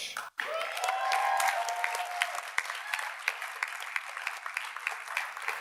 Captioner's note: audience cheers and applauds